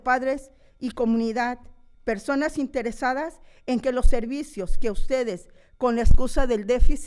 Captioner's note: continues speaking in foreign language